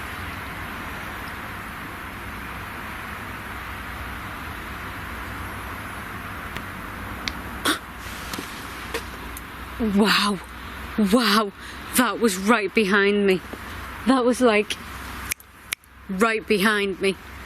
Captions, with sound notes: (distant bang) (gasps) Wow! Wow! That was right behind me. That was like, (snaps) right behind me.